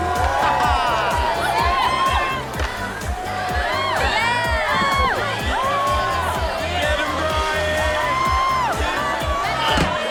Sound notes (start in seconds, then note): 0.3 laughs; 1.3 yelling; 3.4 cheering; 6.5 yelling